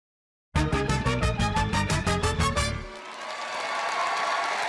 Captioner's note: cheering, applause